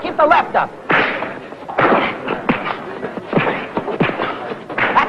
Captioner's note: fists thudding